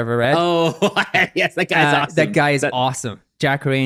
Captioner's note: laughs